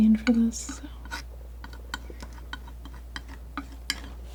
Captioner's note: tapping